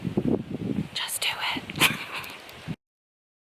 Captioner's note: whispers